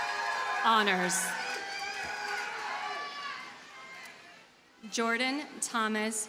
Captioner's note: audience cheers and applauds